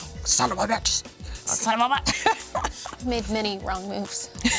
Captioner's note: laughs